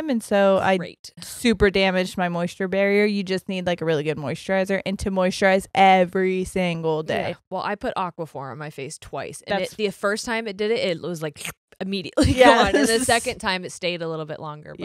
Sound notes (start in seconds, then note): 11.4 makes sucking sound